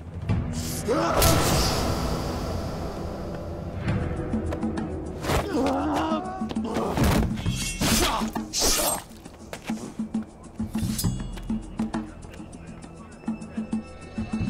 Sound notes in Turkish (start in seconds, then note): 0.8 Bağırma ve vurma; 5.4 İnleme Sesi; 8.6 Kılıç Sesi